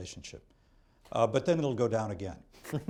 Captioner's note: laughter